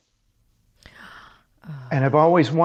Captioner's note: gasps